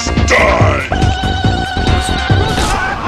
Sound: war cry

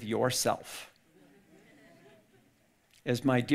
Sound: audience laughing

